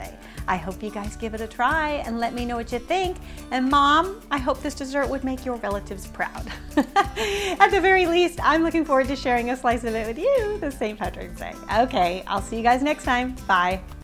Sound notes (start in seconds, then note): 6.5 laughs